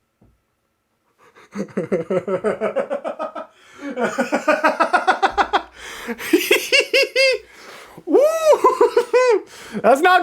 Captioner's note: deranged laughter